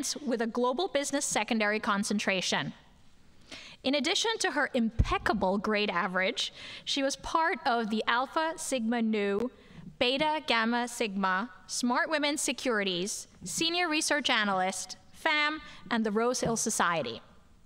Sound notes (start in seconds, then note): none